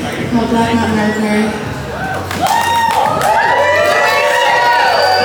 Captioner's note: cheers